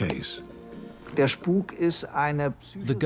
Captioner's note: speaks in German